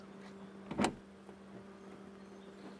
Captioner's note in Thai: เสียงเปิดประตู